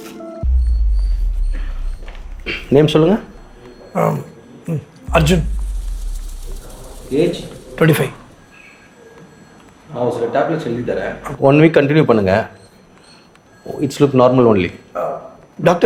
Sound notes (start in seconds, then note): 4.0 stammers